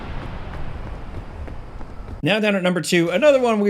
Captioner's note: footsteps clopping